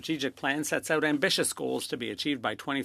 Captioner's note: speaking French